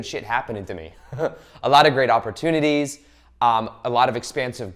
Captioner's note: laughs